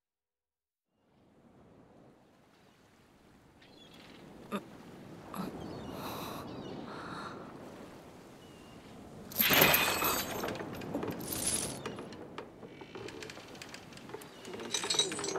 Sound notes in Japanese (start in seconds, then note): 9.3 鎖の音